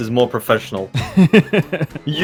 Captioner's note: giggles in british